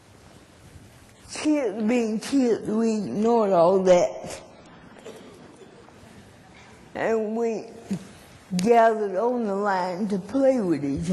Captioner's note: laughter